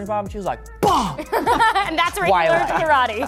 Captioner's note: smack